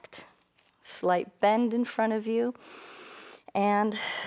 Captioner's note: inhales